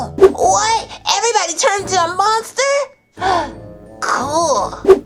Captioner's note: gasps